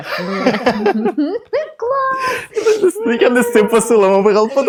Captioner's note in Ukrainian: сміх